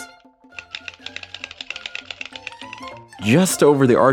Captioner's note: click clack clickety clack